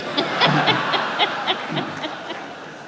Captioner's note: laughs